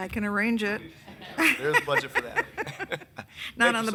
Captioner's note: all laughing